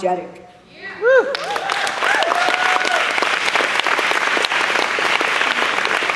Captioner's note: applause